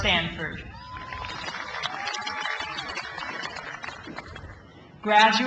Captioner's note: crowd applauds